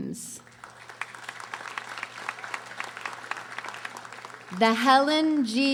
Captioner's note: audience applauding